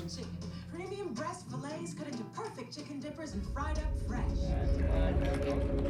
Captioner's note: television blares